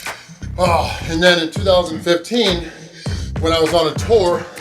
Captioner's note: grunts